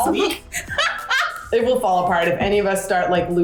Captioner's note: laughs